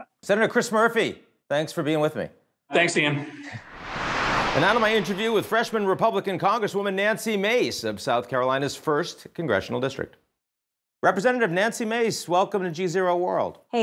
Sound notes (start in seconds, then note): 3.5 air whooshing